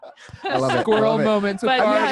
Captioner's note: laughs